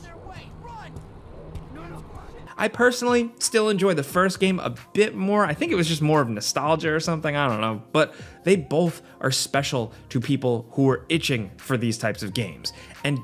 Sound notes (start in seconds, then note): 0.8 footsteps thumping